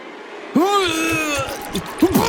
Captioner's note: pukes blood